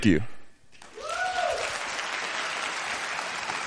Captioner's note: applause